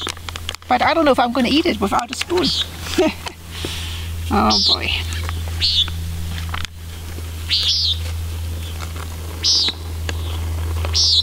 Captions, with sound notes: But I don't know if I'm gonna eat it without a spoon. [laughs] Oh boy. [Lound sound of hawks calling]